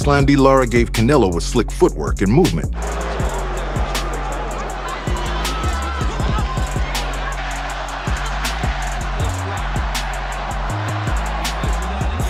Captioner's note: crowd cheering